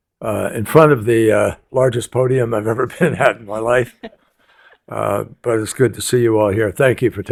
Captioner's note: laughter